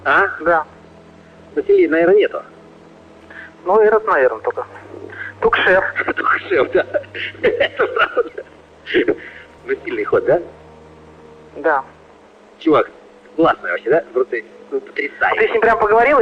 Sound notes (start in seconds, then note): 7.7 laughs; 8.3 chuckles